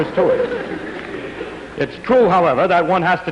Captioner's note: laughter